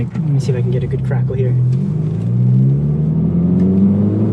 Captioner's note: exhaust